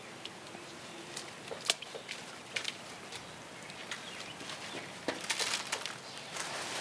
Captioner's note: birds chirping; footsteps thumping